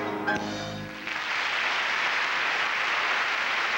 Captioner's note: applause